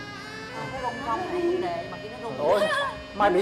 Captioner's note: chatting